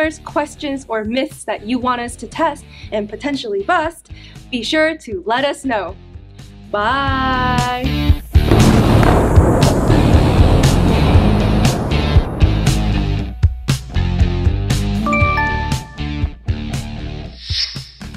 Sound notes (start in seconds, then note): 8.4 bomb exploding; 12.7 upbeat music